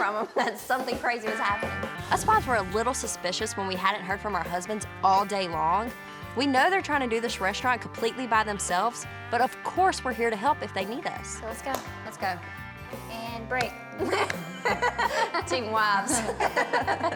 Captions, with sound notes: WE KNEW WHEN WE DIDN'T HEAR FROM 'EM THAT SOMETHING CRAZY WAS HAPPENING. US WIVES WERE A LITTLE SUSPICIOUS WHEN WE HADN'T HEARD FROM OUR HUSBANDS ALL DAY LONG. WE KNOW THEY'RE TRYING TO DO THIS RESTAURANT COMPLETELY THEMSELVES, BUT OF COURSE WE'RE HERE TO HELP IF THEY NEED US. SO LET'S GO. LET'S GO. AND BREAK. [LAUGHING] TEAM WIVES.